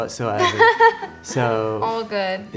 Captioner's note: laughing